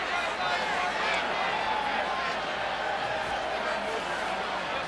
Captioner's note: people chattering